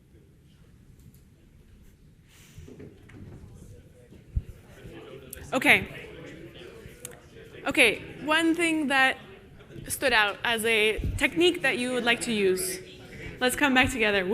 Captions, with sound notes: Okay. (participants chattering) Okay, one thing that stood out as a technique that you would like to use. Let's come back together.